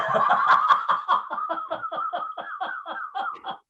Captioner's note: both laughing